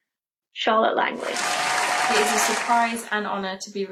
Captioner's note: applause